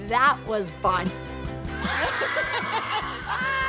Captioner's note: cheering; Abby laughing